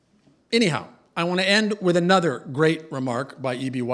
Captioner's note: none